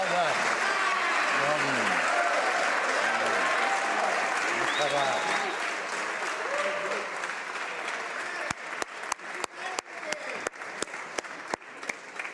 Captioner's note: applause